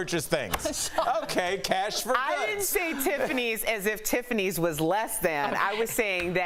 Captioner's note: laughter